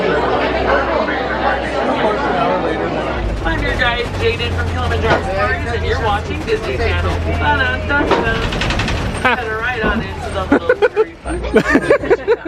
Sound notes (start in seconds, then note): 10.4 laughs